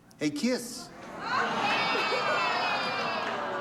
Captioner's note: audience groans